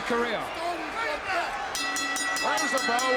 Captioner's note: bell ringing